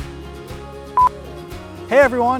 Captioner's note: audio beeps